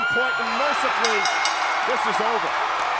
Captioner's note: bell rings